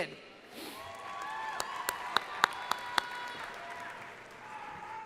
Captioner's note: crowd applauding